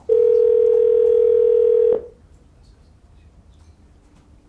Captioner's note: phone rings